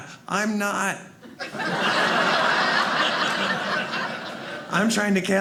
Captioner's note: audience laughing